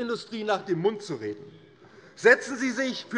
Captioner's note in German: Widerspruch Freie Demokraten